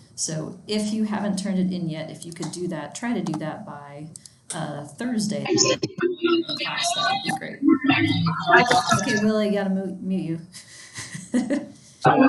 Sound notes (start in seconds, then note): 5.0 attendee's mic distorting; 11.3 chuckles